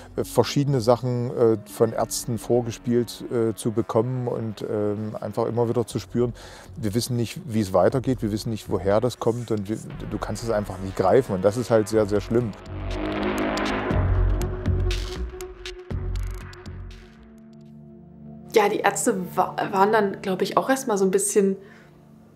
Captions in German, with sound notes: Verschiedene Sachen von Ärzten vorgespielt zu bekommen. Und einfach immer wieder zu spüren ... wir wissen nicht, wie's weitergeht, woher das kommt. Du kannst es einfach nicht greifen, das ist halt sehr schlimm. (Dröhnen) Ja, die Ärzte waren dann, glaub ich, auch erst mal so 'n bisschen ...